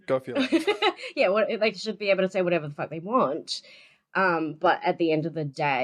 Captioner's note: laughts